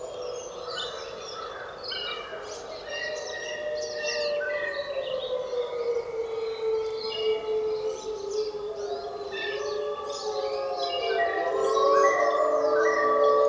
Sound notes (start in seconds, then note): 4.7 wolves howling; 7.6 birds chirping; 10.6 wolves howling